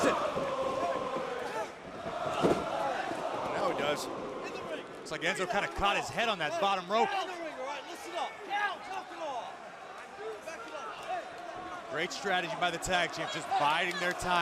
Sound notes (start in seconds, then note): 0.0 crowd chatter